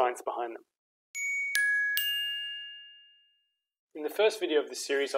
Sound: gently chiming bells

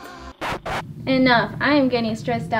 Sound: record scratch

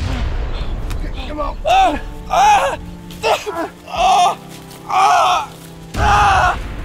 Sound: Lewis cries out

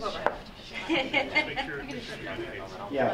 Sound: laughing

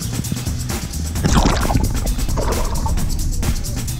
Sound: sloshing

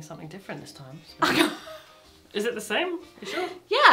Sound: laughing

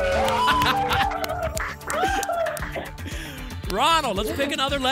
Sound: applause and cheering; laughs

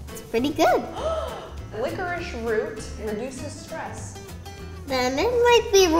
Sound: interviewer gasping

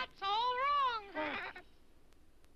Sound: toys laughing

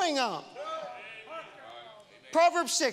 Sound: congregation shouting

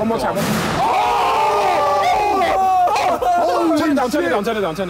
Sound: all cheering

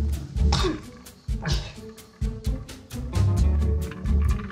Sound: slurping

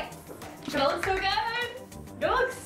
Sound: clapping hands

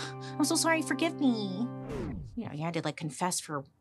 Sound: record scratches

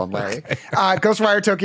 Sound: laughing

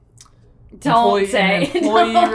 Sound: laughs

